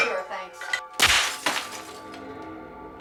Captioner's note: exploding